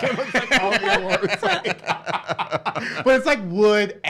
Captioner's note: laughs